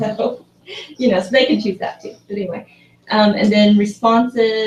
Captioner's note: laugh